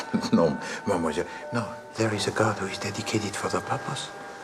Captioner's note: Ketukan ritme